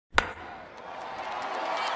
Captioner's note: baseball bat hitting ball; cheering